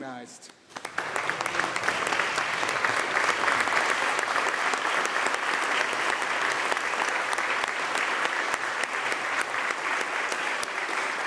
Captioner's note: applause